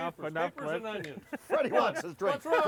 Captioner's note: laughing